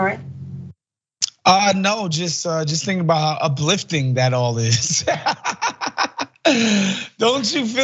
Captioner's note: laugh